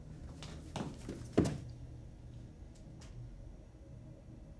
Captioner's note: feet pattering